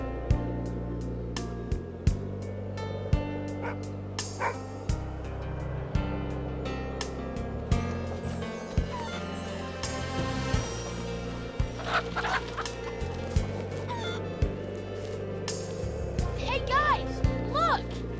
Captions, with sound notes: (dog barking) (chickens clucking) - Hey, guys, look!